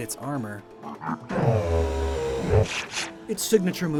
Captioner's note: Regidust cry